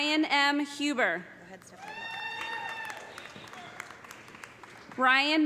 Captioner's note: cheers and applause